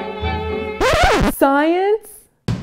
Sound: record Scratch

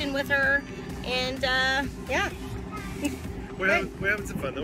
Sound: laughs

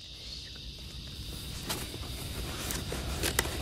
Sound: crickets

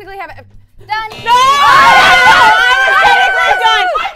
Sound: all screaming

